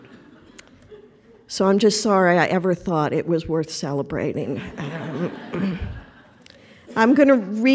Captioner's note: laughter; laughter